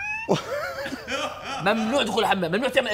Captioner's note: laughs